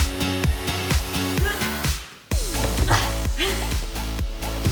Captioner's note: techno music; grunts